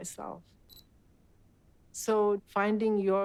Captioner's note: camera shutter beeping